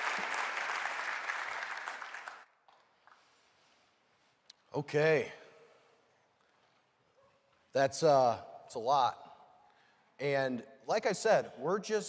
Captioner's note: cheering and applause